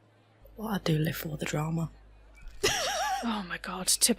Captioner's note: laughter